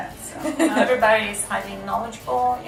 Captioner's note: camerawomen laughing